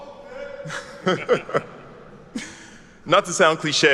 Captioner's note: laughs